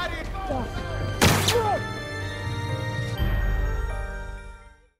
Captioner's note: victim grunts; gunshot bangs